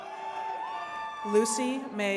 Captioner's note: attendees cheering